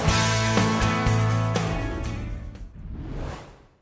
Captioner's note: whoosh